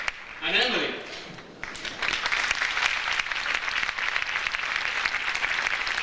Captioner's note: audience applauds